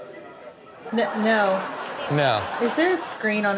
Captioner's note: audience laughing